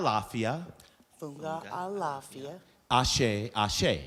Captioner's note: speaking in foreign language